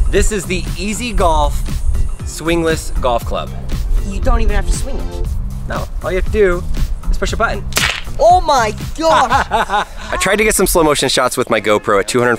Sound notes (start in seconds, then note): 7.7 cracking sound; 9.0 laughter